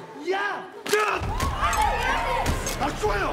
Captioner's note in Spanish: murmullos; gritos